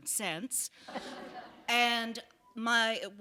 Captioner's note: laughter